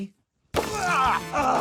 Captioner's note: groans; grunts